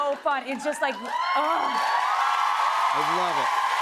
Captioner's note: cheers and applause